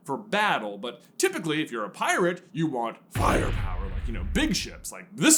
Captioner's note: deep boom